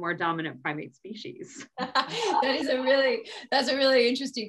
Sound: all laughing

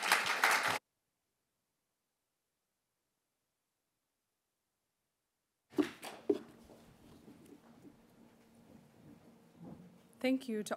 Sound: applause

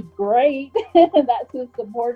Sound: laughs

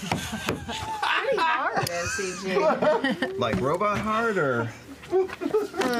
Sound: the cast laughs; laughs loudly and bangs on the table; the sound of shuffling through his stuff is audible

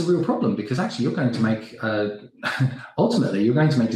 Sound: scoffs

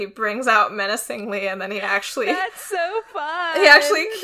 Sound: laughing

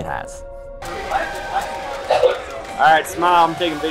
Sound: crowd cheering

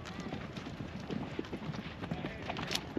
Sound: footsteps

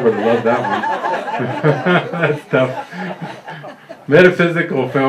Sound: laughter

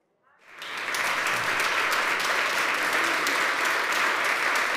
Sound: congregation applauding

